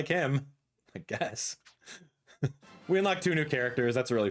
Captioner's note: laughs